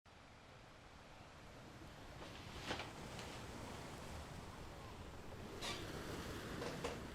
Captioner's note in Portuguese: Ruído e sons de folhas de papel